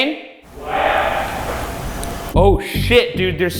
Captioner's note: mysterious tapping